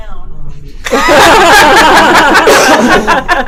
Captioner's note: laughing